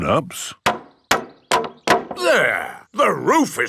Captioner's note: hammering